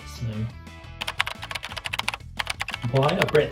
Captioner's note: keyboard clacking